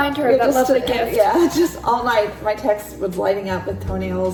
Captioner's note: laughs